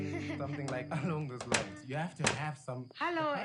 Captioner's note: door opens